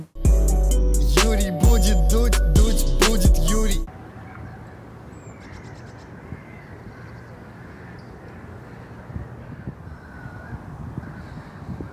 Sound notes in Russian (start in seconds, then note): 0.0 музыкальная заставка; 3.9 крики и пение птиц, лёгкий шум ветра